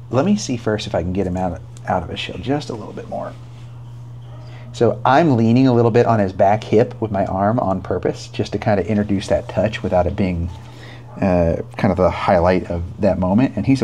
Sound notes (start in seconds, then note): none